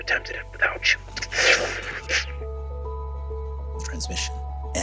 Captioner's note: mimics distortion